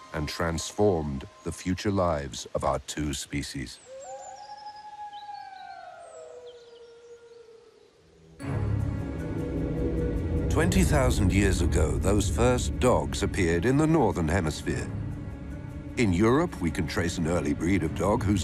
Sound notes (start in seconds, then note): 3.9 wolf howling; 8.7 dramatic music